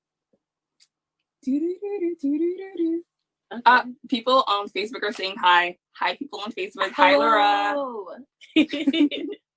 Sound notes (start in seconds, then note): 1.3 is huming hold music; 8.6 laughs